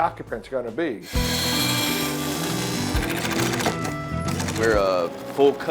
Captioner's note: ambient music; machines whirring